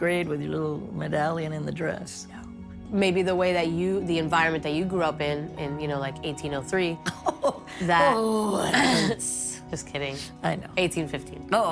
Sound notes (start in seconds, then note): 7.0 laughing